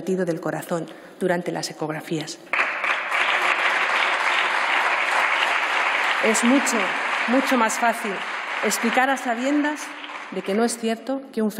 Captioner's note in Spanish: Aplausos